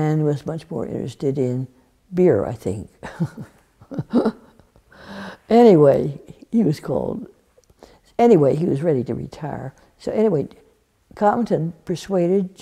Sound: laughs

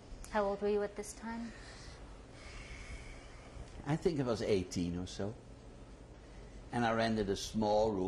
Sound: sighs

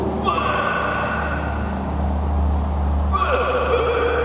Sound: Papi retches

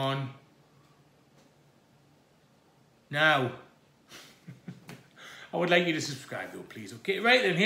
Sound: laughs

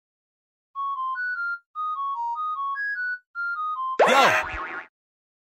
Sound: whistles theme song; screams before noticing Isaac and Lancer

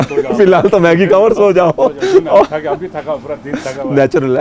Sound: laughter

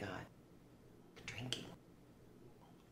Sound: loud whisper

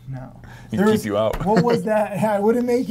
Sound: laughs

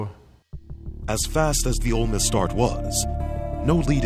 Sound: voiceover

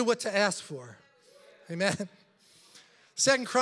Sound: congregation chattering

